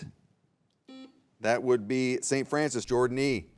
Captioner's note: buzzer beeps